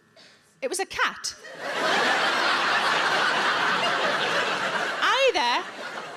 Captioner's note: audience laughing